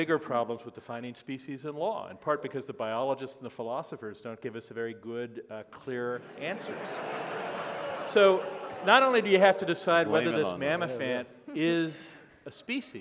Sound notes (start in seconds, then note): 6.1 laughter